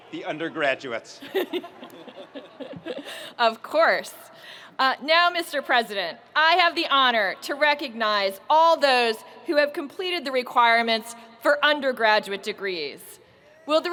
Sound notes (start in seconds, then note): 1.2 audience laughing